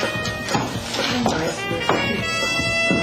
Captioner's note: knocking